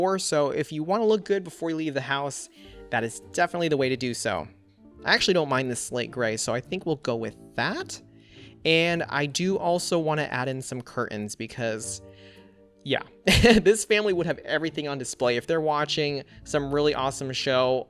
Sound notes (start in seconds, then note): 13.3 laughs